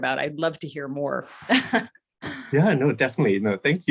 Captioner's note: laughs